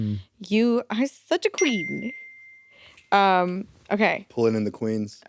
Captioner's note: bell dings